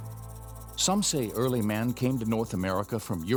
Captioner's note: voiceover